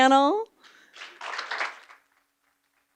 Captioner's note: clapping